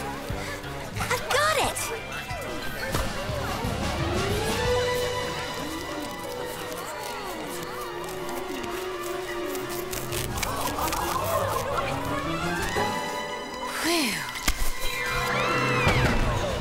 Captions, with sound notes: I'VE GOT IT! (sawing noise) WHEW!